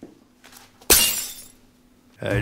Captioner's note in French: Téléphone se casse